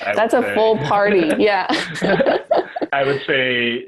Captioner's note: laughter